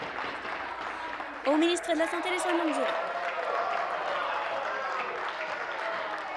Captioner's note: applause